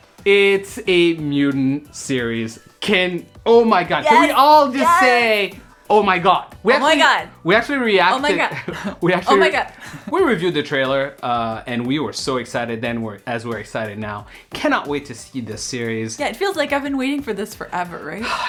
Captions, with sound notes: It's a mutant series. Oh my god. - Yes! - Can we all just say, oh my god! - Oh my god! (laughing) - We reviewed the trailer, and we were so excited then as we're excited now. Cannot wait to see this series. - Yeah, it feels like I've been waiting for this forever, right?